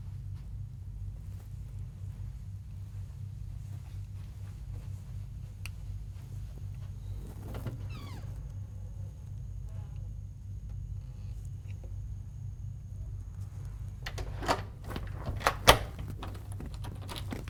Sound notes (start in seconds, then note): 7.4 door creaks; 14.0 lock clicks